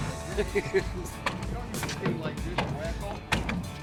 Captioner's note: laughing